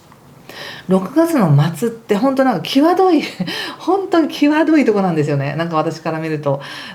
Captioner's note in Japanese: 笑い